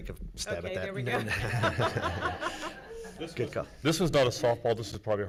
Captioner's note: laughing